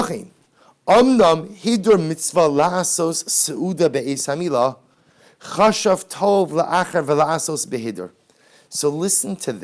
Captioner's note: Hebrew